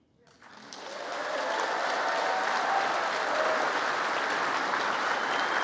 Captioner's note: congress applauding